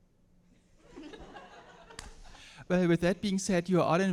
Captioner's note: all laughing